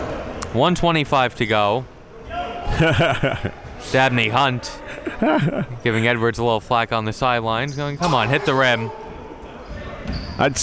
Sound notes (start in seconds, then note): 2.6 laughing